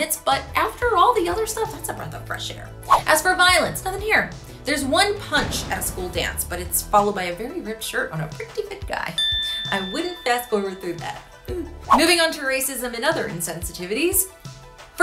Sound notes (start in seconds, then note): 2.8 swooshing; 9.1 bell chiming; 11.8 swooshing